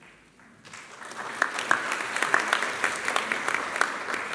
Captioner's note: applause